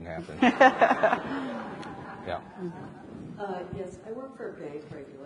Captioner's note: and audience laughs